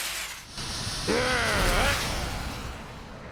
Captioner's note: growls